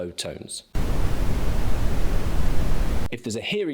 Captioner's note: static blaring